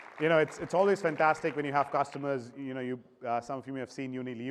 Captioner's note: applause